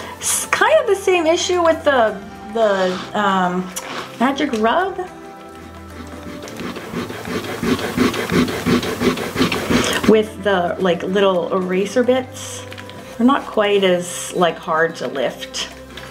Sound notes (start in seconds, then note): 0.0 palm rubs; 5.9 eraser rubbing; 15.9 eraser rubbing